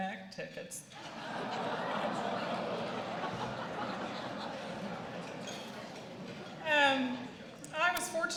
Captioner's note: laughter